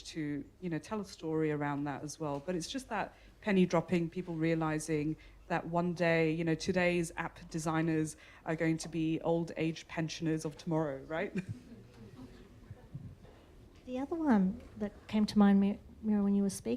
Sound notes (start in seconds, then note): 12.6 audience laughter